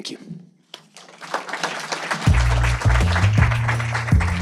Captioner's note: applause; upbeat electronic music